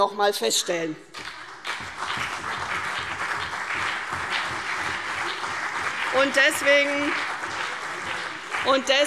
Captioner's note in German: Beifall CDU und BÜNDNIS 90/DIE GRÜNEN